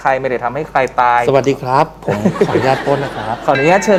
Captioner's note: laughing